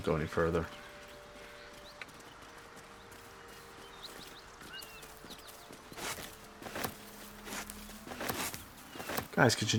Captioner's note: silence